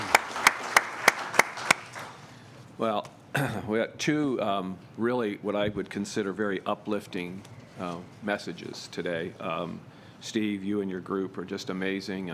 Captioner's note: applause